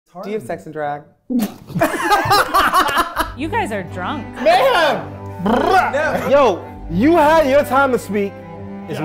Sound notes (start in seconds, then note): 1.3 spitting out her drink; 1.7 everyone laughing